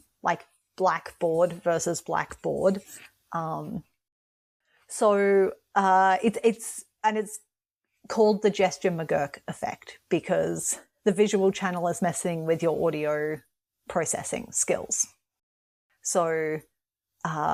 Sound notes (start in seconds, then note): none